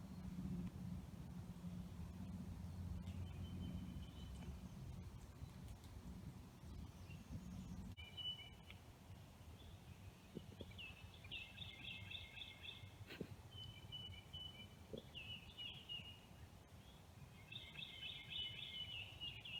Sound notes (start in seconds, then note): 3.6 birds chirping; 9.1 birds chirping